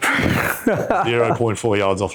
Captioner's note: laughs